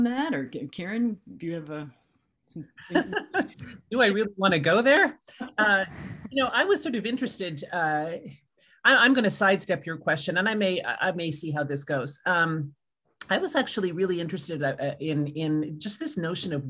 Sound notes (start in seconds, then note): 2.9 laughing